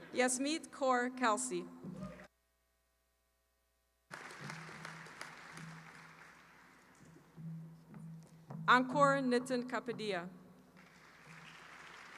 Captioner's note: applause